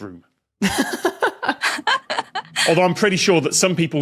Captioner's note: laugh